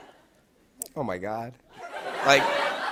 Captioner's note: laughter